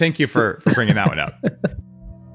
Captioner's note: laughs; intense tune